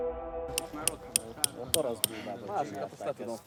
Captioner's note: voices and hammering